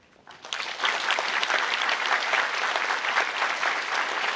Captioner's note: applause